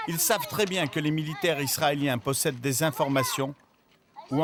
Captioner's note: Arabic spoken audio